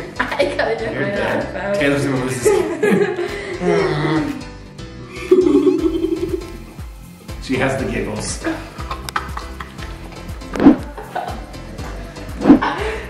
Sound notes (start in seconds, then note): 5.2 giggles; 10.7 laughs